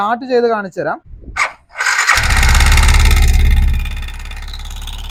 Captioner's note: engine noise